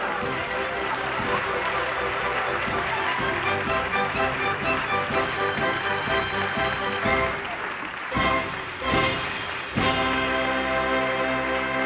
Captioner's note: applause